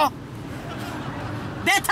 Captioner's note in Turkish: Gülme efekti